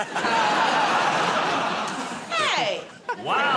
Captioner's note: laughter